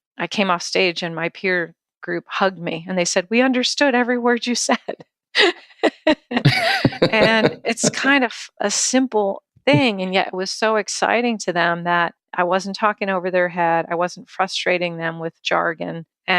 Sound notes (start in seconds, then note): 5.8 laughing